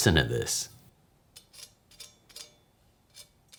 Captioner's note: knife scrapping over crispy bits